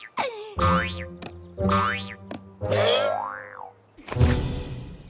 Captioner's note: boing! Boing!